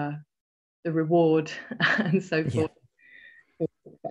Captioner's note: laughs